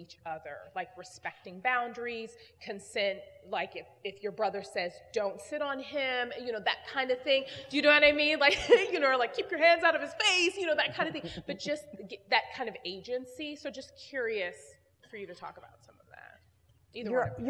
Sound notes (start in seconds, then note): 10.8 laugh